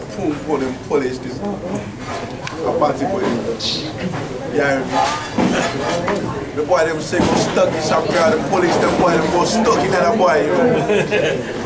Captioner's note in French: s'exprime dans un patois créole mystique